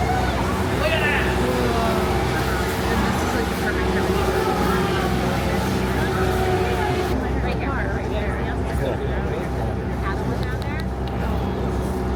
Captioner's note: general happy chatter